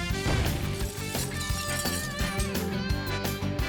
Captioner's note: bang; shattering glass